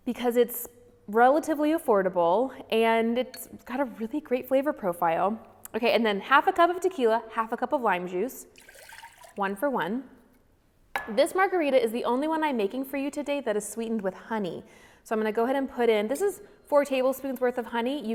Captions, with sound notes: because it's relatively affordable and it's got a really great flavor profile. Okay, and then half a cup of tequila, half a cup of lime juice. (liquid pours) One for one. This margarita is the only one I'm making for you today that is sweetened with honey. So I'm gonna go ahead and put in, this is four tablespoons' worth of honey.